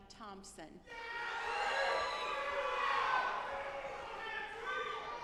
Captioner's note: audience applauding